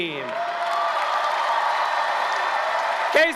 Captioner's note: applause, cheering